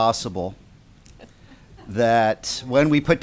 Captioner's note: laughter